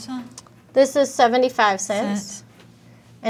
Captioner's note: none